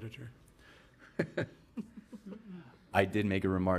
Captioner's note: laughing